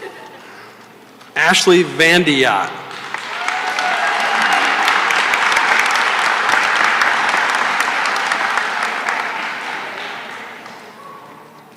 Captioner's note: cheering and applause